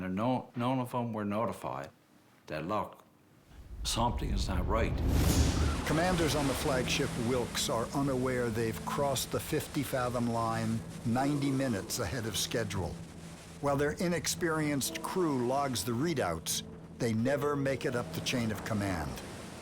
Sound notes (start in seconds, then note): 5.1 waves crashing